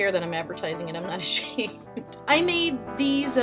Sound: laughs

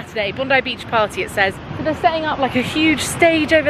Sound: none

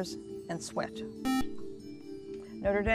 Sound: buzzer

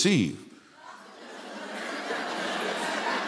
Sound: laughter

